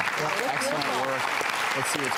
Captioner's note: audience clapping